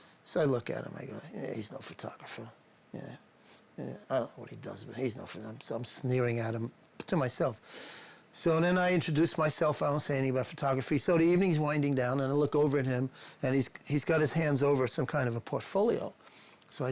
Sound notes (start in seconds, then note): none